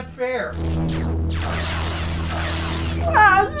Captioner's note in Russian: световой меч парирует лазер; громко ноет